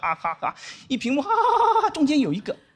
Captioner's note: laughing